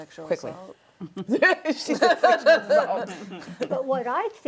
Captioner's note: laughs